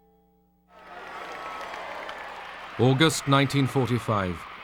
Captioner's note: cheering